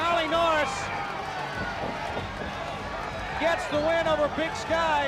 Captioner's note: crowd cheering